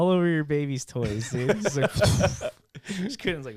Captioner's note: laughing